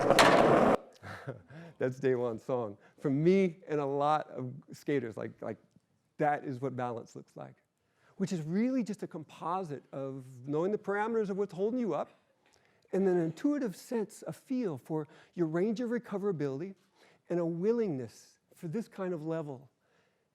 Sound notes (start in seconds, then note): 1.0 laughs